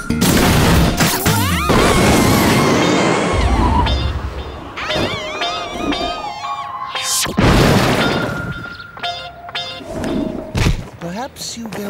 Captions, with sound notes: the White House awaits! [girls screaming] [thuds]